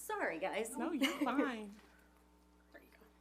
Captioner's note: chuckles